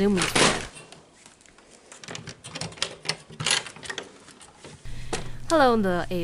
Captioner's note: door Unlatching